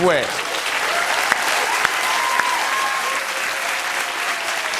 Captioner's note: cheering and applause; laughter and applause